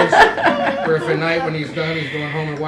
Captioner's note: laughter